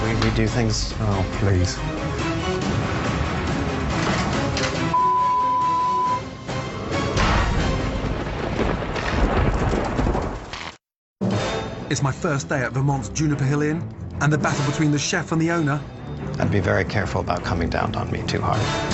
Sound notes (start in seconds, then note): 7.2 thunder rumbles; 8.1 electricity crackles